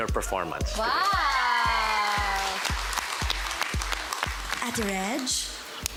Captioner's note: cheering, applause